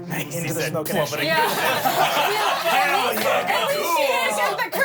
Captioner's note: everyone laughs